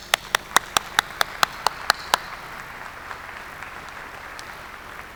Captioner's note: applause